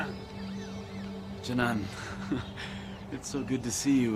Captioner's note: laughs